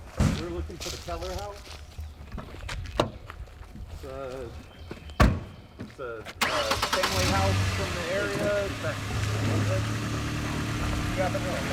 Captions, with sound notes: We're looking for the Kehler house. (door slams) It's a family house from the area. (engine purring)